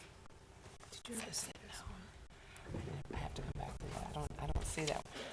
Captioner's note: board chatting quietly